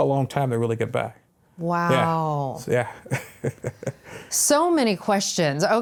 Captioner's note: laughs